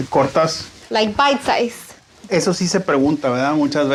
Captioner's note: Spanish